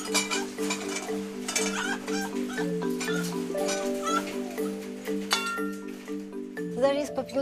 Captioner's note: foxes yapping excitedly